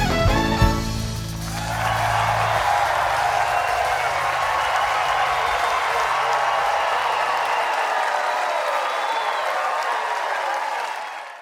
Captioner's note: applause